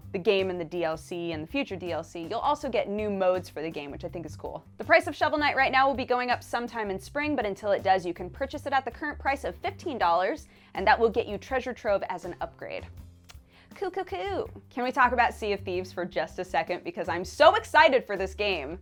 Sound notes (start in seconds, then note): 13.2 clicks tongue